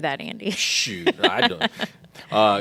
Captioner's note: laughing